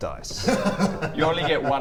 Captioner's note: hahaha!